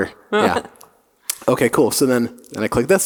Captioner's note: laughing